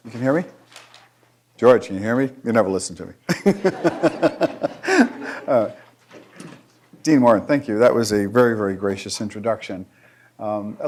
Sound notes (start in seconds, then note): 3.3 laughing; 3.4 audience laughing